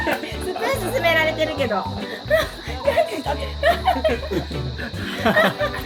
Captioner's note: laughs